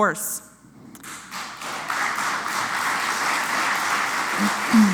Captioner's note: applause